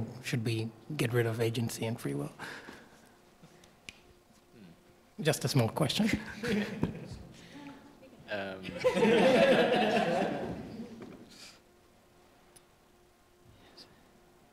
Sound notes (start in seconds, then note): 8.6 laughter